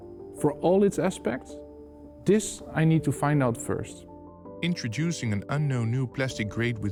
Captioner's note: voiceover